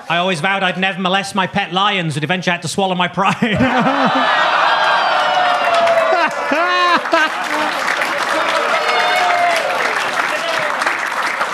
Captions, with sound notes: I always vowed I'd never molest my pet lions, but eventually I had to swallow my pride. (audience laughing) (Gary chuckling) (audience applauding)